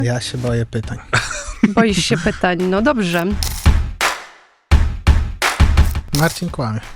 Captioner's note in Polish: śmiech